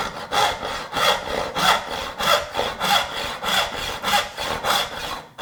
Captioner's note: saw on wood continues rasping